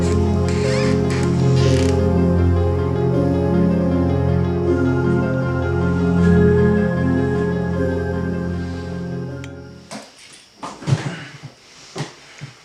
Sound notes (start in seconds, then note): 9.9 grunts